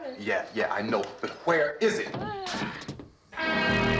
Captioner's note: groaning